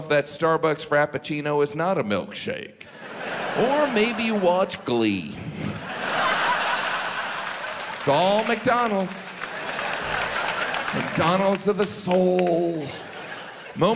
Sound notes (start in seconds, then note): 5.9 audience laughs; 9.8 audience laughs